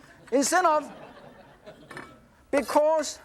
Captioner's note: audience laughs